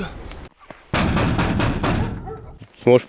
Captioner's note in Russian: стук в дверь